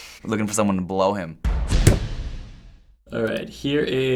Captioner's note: hammering nail